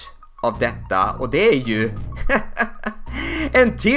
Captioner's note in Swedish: Små skrattar